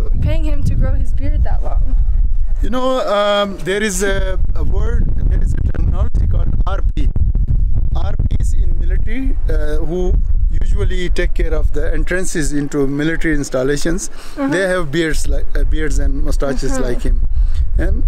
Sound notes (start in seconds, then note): 6.5 foreign language